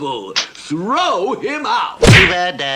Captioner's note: splat!